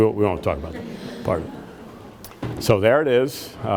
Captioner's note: audience laughs